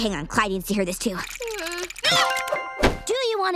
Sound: whimpering

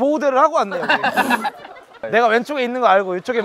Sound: laughing

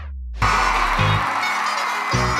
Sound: crowd cheering

